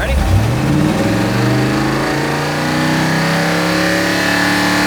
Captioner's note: engine revving